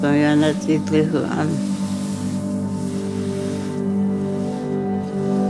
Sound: speaks other language: English translation on screen

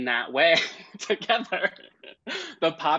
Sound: laughs

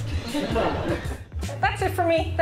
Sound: crowd laughing

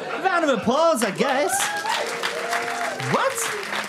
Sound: audience applauds and cheers

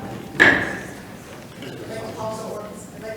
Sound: audience chattering; gavel taps

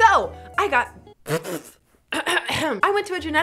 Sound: blows raspberry, clears throat

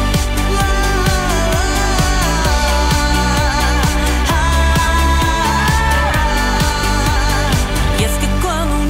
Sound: vocalizing

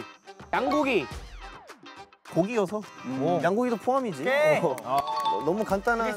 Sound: confident

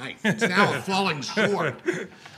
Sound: laughs

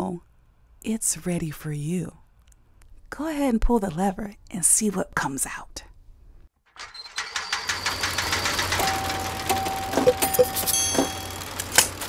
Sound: sounds of lever being pulled

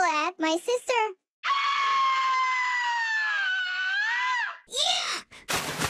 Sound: screaming; medium splash

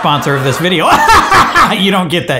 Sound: laughs harshly

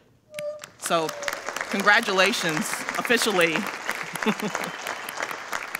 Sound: audience applauding

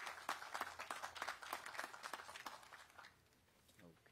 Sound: applause

